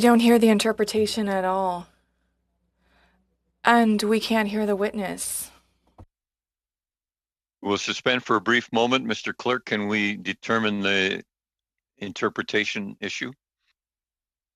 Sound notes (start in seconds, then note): 3.0 speaking French